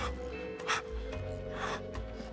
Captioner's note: gasping